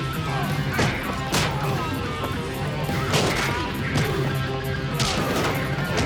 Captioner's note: grunts and groans; smacks and thuds